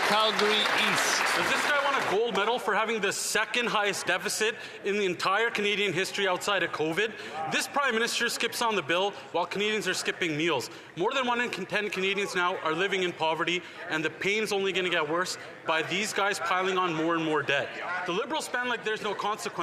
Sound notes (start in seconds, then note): 2.5 some Applause